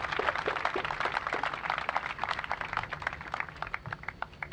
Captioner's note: applause